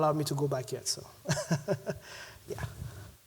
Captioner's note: laughs